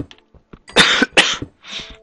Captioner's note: coughing